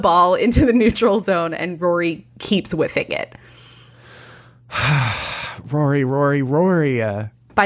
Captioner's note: sighs